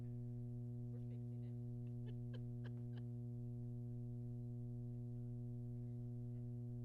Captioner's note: laughs